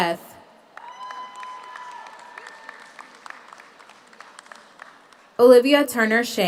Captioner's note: audience applauds; audience cheers